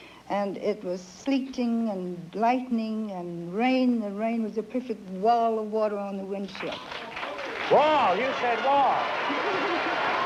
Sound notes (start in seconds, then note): 6.6 applause